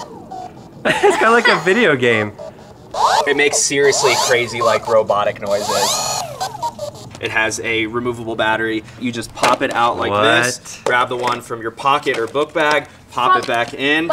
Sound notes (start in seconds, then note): 0.0 laughs